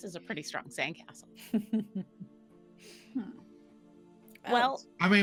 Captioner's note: chuckles